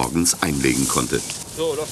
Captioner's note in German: Arbeitsgeräusche und -gespräch